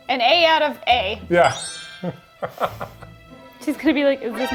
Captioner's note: laughs